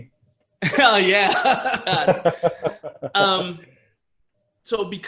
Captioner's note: laughs